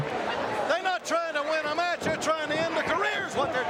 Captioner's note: crowd chatter